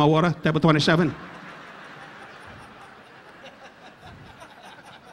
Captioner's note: audience laughing